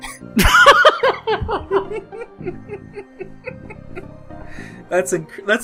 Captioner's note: laughter